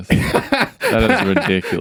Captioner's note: both laughing